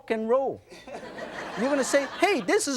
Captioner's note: audience laughs